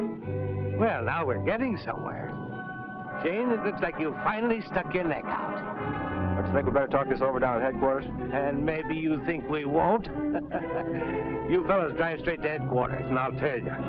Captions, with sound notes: Well, now we're getting somewhere. Shayne, it looks like you finally stuck your neck out. - Don't you think we'd better talk this over down at headquarters? - And maybe you think we won't? (laughs) You fellas drive straight to headquarters and I'll tail ya.